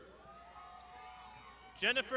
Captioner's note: crowd shouting